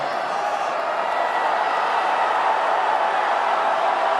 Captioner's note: cheering